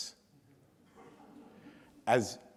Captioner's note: audience laughs